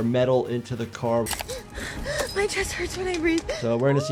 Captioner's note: gasping